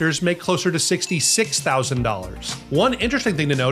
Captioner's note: bell dings